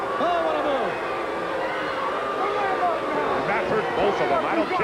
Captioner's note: crowd booing